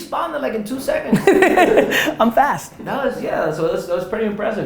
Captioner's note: laughs